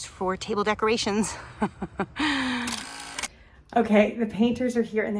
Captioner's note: laughs